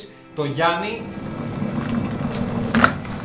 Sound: water boils

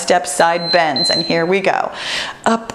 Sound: timer beeps

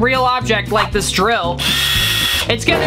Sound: drill sound

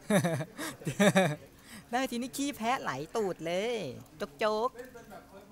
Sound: laughing

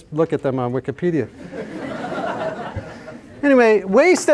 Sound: laughter

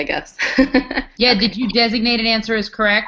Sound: laugh

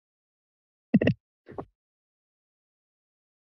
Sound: mic thumps

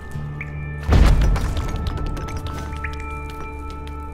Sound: thunderous boom, debris clatters

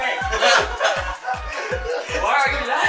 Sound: laughter

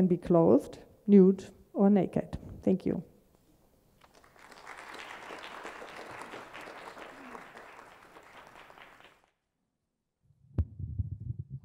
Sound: applause

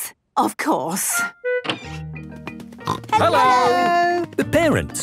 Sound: snorting

